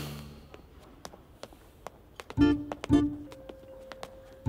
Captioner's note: Footsteps